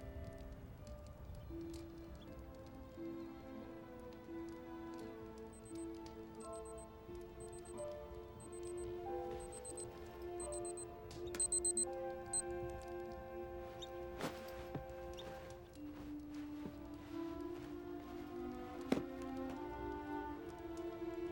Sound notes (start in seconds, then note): 11.2 watch beeping; 18.6 soft music